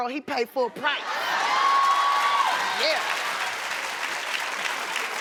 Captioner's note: cheering and applauding